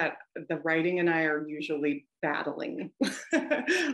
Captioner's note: laughs